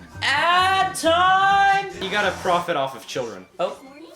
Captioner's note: none